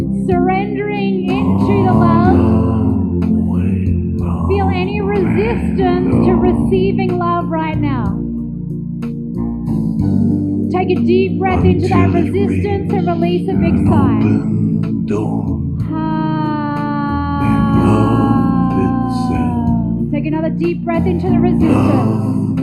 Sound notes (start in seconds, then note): 16.1 sighs